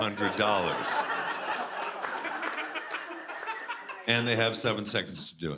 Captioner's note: laughter